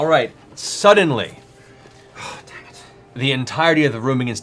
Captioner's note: whispering